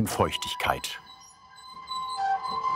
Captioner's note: squeaking